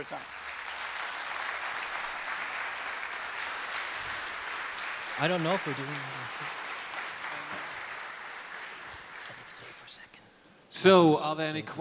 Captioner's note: applause